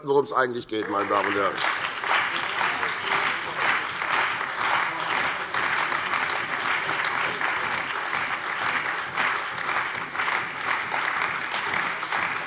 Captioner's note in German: Beifall bei der CDU und dem BÜNDNIS 90/DIE GRÜNEN